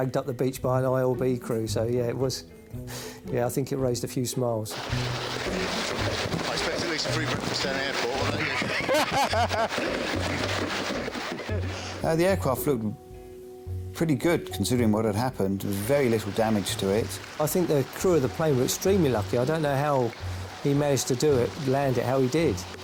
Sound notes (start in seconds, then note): 9.8 both laugh